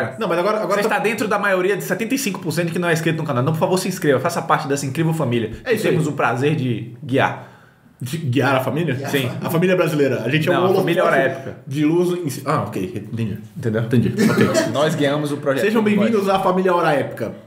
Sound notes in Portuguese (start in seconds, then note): 14.1 risos